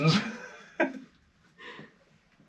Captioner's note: laughs